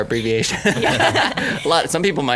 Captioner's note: laughing